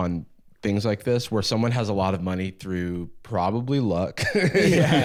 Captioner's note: laughs